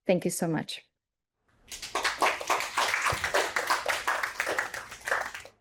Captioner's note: applause